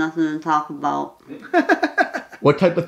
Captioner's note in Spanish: Risas